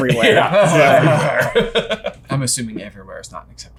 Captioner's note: laughing